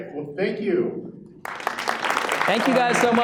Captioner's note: audience applauds